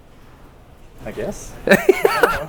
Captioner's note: Destin laughing